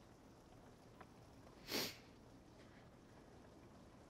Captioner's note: sniffles